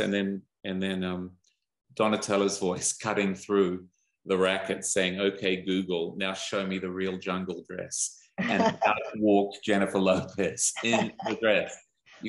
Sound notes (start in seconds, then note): 8.4 laugh